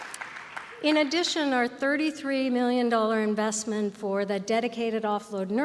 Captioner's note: applause